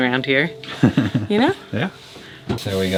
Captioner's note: laughs